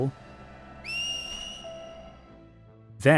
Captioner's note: distant whistling